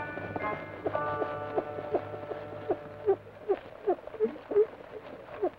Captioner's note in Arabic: صندوق الروك يصدر صوت صرير إيقاعي